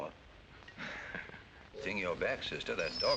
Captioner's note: chuckling